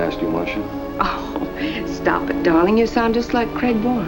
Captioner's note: chuckles